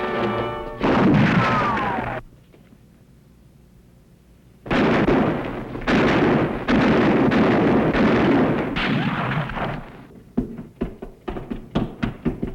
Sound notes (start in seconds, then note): 0.8 gunshot; 4.6 gunfire starts